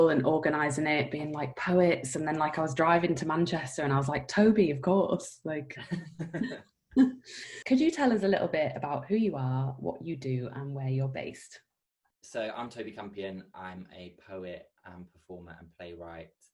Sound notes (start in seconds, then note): 5.9 laughing